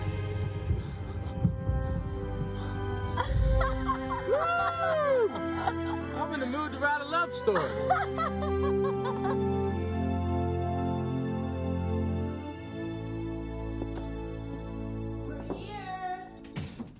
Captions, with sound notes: (people chuckling) Whew, I'm in the mood to write a love story. We're here.